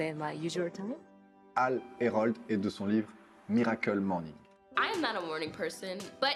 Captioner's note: speaking in foreign language